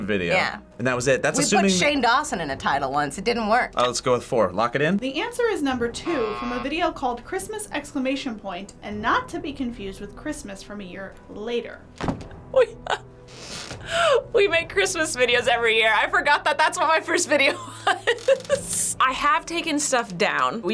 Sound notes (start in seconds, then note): 12.5 laughs; 17.4 laughs